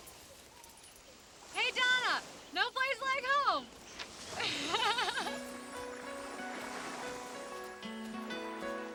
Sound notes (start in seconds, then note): 4.4 laughs; 5.3 dramatic music